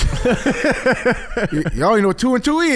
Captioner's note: laughing